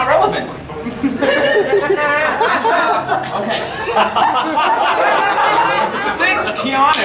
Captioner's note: audience laughing